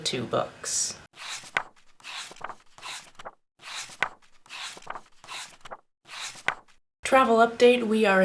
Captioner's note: pages turning